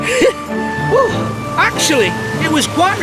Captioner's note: chuckles